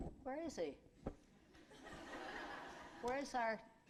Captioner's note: laughter